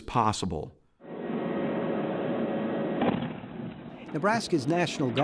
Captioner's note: truck driving and explosion